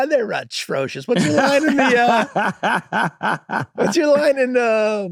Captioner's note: Rob laughing agreeingly